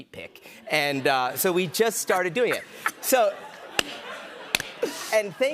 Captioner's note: laughter